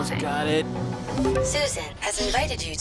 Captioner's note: message alert